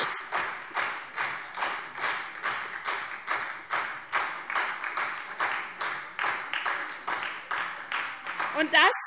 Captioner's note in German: Beifall SPD